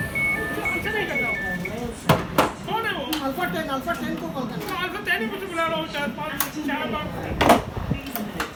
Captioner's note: conversation in a language other than English